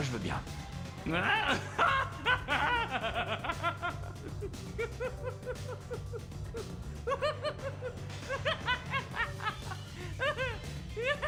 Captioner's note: laughs